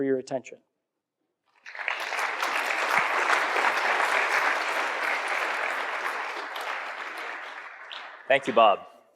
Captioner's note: applause